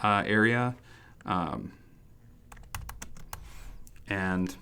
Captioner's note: keyboard clicks